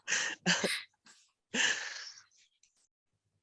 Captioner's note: laughs